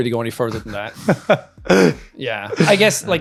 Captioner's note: laughing